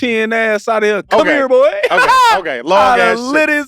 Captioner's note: laughs